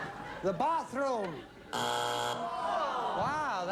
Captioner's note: buzzer